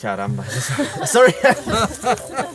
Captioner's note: laughs